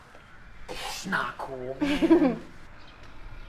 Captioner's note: Kira chuckles; tense music